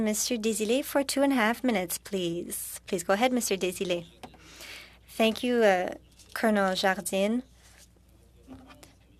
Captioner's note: speaking French